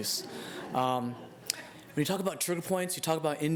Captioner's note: laughter